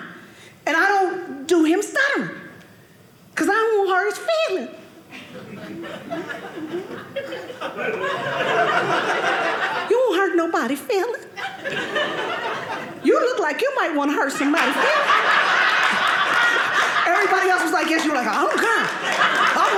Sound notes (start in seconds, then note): 7.8 audience laughing; 15.8 audience laughing